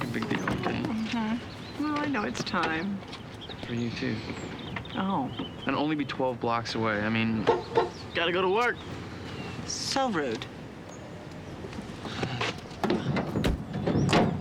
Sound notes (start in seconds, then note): 6.2 honks horn; 12.0 sighs